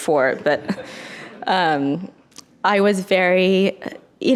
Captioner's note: audience laughs